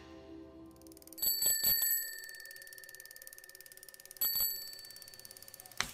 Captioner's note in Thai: เสียงกระดิ่งจักรยาน